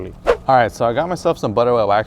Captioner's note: whoosh